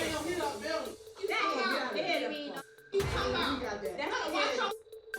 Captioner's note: indistinct chatter